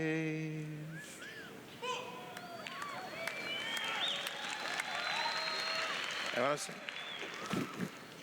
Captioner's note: cheers